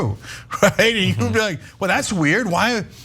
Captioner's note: laugh